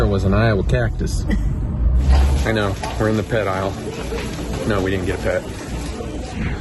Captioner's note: giggles